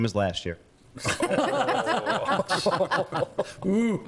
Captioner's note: laughing